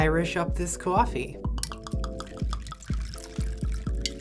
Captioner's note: glugging